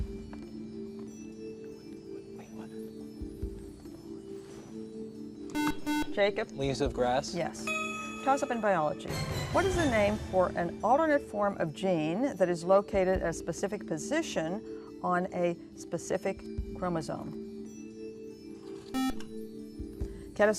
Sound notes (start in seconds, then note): 1.6 whispering; 5.5 buzzer; 18.9 buzzer